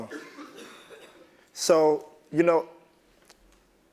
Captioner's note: laugh